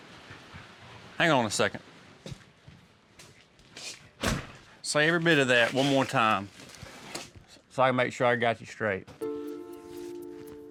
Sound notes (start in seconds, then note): 4.2 door closes; 9.5 tense music playing